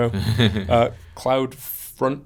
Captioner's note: laughs